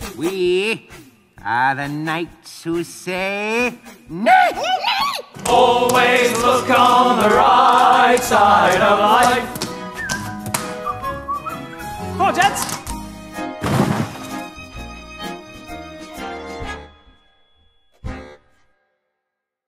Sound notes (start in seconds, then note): 9.6 upbeat whistling; 13.6 foot thudding; 14.0 upbeat music